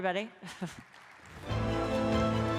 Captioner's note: applause; chuckles